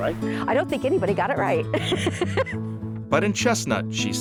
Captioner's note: laughs